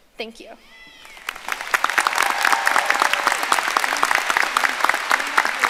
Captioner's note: audience applauding